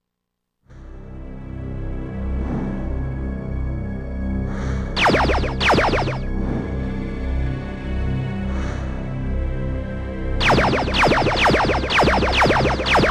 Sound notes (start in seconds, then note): 5.0 lasers firing; 10.4 lasers firing